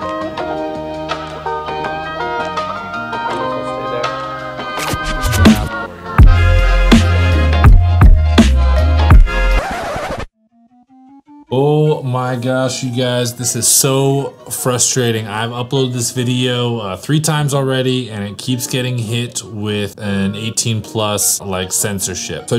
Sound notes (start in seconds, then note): 5.9 hip-hop music begins; 9.0 record scratch